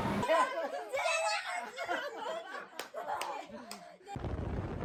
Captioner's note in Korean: 웃음